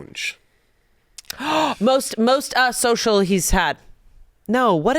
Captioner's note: gasps